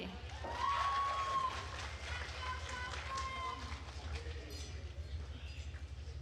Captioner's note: attendees cheering and applauding